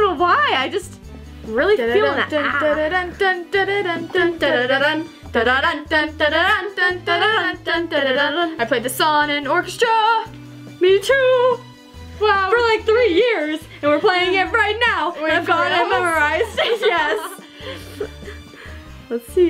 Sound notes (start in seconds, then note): 3.2 both humming theme